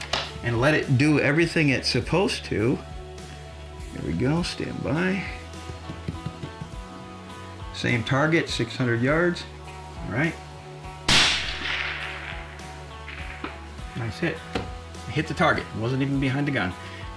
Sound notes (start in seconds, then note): 11.0 rifle cracks